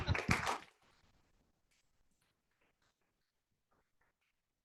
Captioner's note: audience applauding